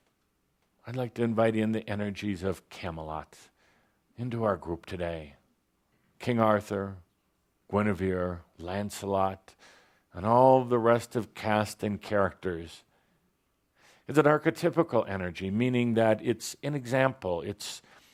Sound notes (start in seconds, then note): none